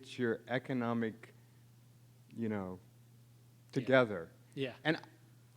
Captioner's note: pause